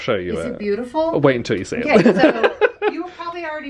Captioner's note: laughing